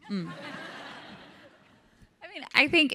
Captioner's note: audience laughs